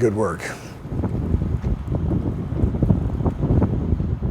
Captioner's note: wind blowing